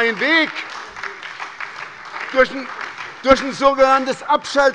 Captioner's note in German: Beifall bei der SPD und der LINKEN